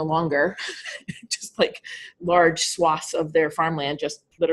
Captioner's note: laughing